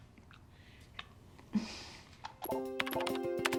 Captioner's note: lips smacking; scoffs; computer beeps; suspenseful music